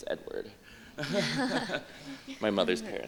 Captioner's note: laughter